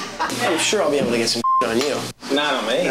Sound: everyone laughs; beep

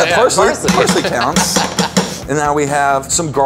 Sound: laughs

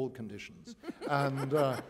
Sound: laughter

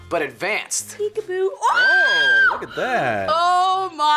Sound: screams

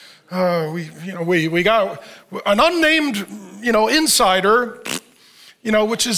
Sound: imitates fart

